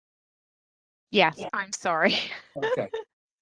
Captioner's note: laughter